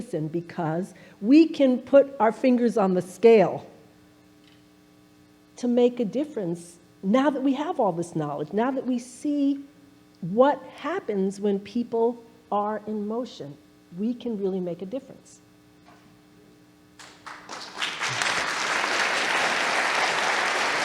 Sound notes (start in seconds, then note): 17.0 audience applauding